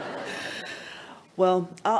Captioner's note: laughs